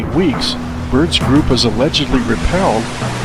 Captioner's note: waves lap